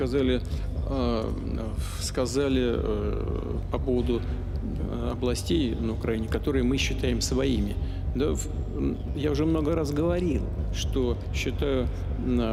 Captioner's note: speaking alternate language